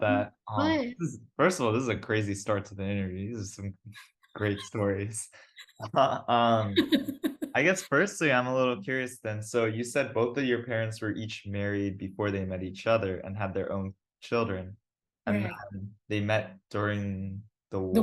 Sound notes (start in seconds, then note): 5.8 laughs